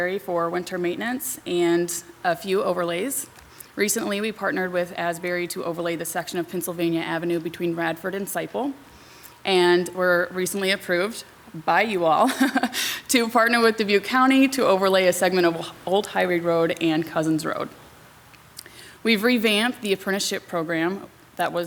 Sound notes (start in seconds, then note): 12.2 laughs